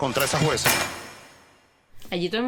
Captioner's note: cells closing loud